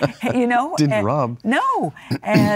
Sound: laughs

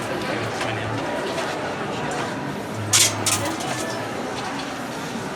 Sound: street noise and noise of falling coins

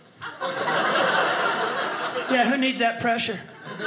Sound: audience laughing

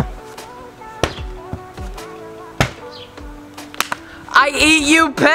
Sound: ball hitting board

